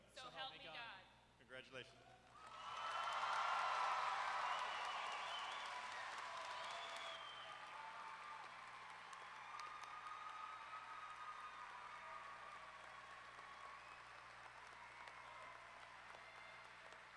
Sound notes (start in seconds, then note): 7.5 applause